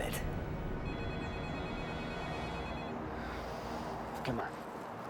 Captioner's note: phone rings